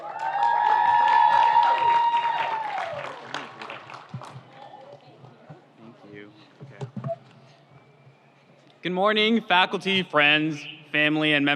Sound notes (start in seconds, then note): 0.0 audience cheers; 0.0 audience applauds